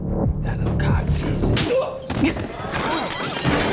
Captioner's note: hand slaps; glass shatters; fist thuds